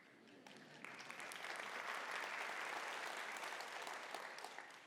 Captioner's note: audience applauding